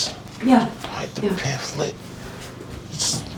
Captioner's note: whispering